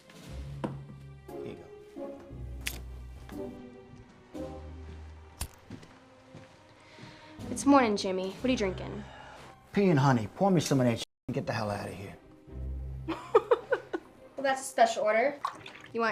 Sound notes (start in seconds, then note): 13.1 Lolita laughs